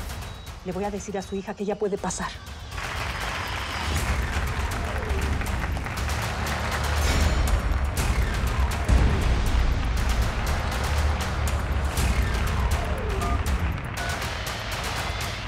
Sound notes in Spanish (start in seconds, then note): 5.5 Aplausos